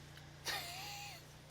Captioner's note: laughs